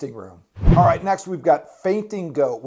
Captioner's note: air whooshing